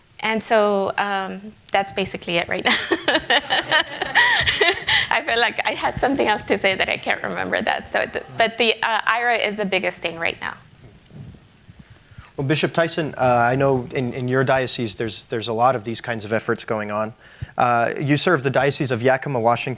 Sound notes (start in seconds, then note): 5.2 laughs